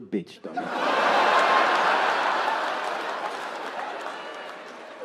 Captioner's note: audience laughing